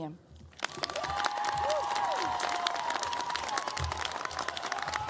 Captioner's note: cheers, applause